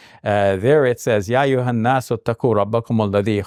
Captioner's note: speaks in Arabic